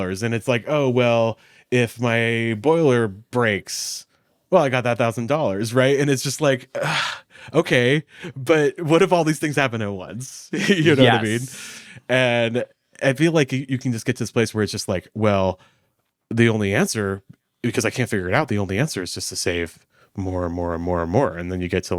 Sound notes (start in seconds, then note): 6.7 groans